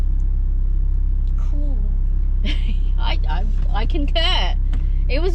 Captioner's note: laughs